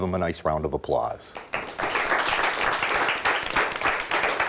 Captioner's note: applause